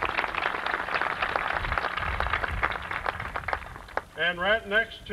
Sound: applause

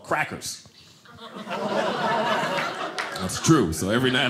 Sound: audience laughing

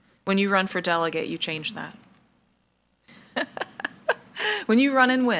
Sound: laughs

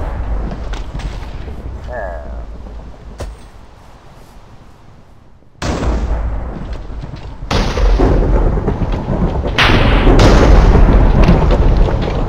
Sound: thunder Strikes

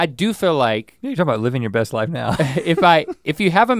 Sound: chuckles

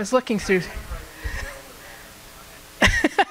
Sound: speaking off mic; laughing

